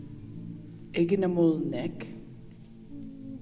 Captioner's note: In Mi’kmaq